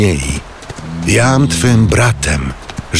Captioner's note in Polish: pomruk